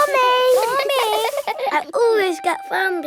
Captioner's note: all giggling